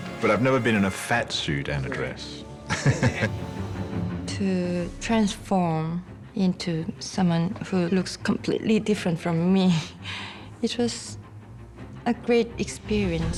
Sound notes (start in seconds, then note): 2.6 weaving laughs